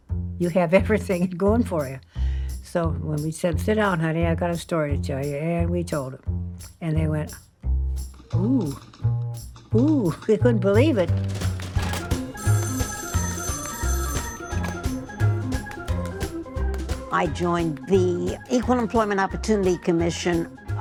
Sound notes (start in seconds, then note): 7.7 typewriter keys clacking; 11.7 phone ringing